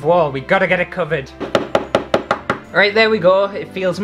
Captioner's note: hammer Sounds